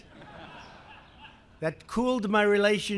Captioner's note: laughter